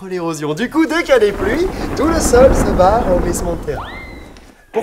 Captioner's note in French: bruit d'orage; sifflement